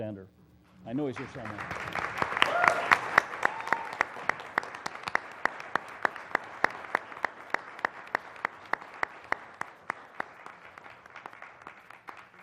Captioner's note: applause